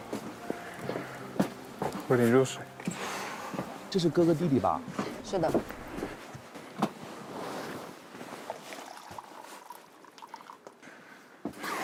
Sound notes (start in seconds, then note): none